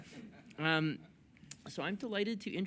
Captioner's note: laughter